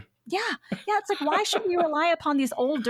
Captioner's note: laughs